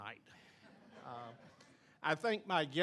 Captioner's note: audience laughing